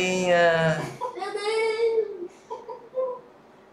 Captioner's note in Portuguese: risos